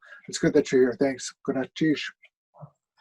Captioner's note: speaking Tlingit